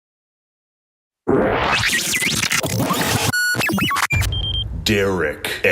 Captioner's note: electronic beeping